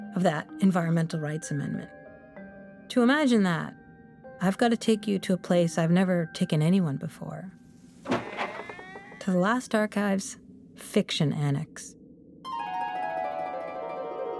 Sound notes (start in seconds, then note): 7.8 door sounds